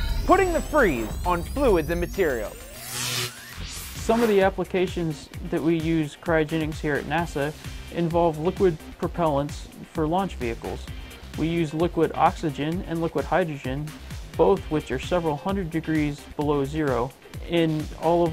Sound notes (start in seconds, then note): 2.8 sound Effects